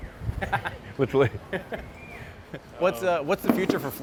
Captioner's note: laughs